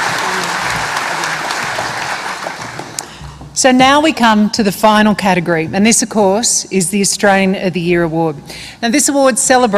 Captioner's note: applause